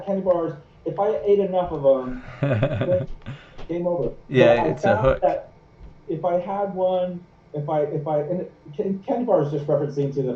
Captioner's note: laughing